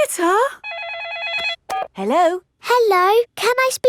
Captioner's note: phone rings